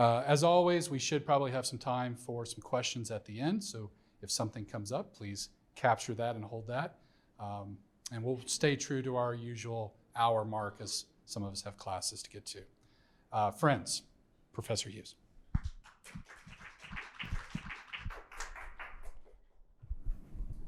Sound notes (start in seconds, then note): 15.6 audience applauding